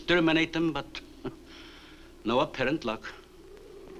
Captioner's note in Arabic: يضحك